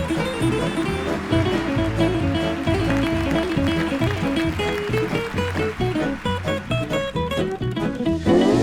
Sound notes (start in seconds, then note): 0.0 audience applauding